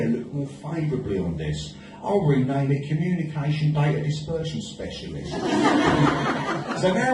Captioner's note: audience laughs